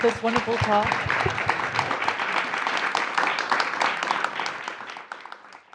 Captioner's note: audience clapping